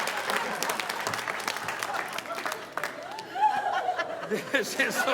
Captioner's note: audience laughing